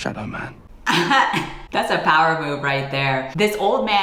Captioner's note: laughs